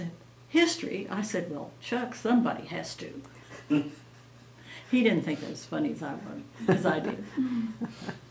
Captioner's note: laughs